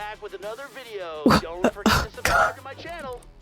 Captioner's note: wheeze